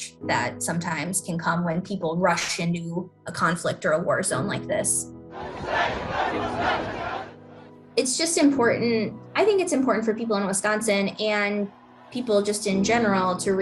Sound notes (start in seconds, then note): 7.5 crowd chanting